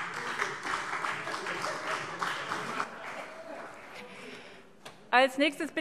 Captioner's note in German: Beifall CDU und vereinzelt BÜNDNIS 90/DIE GRÜNEN